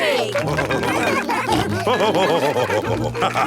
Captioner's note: all cheering; laughing